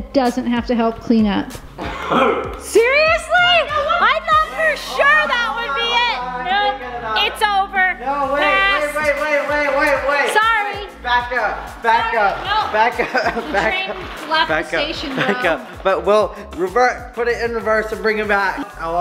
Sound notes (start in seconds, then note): 1.8 laughs